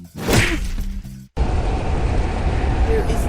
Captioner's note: intense wind sounds